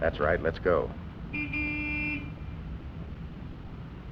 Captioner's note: car horn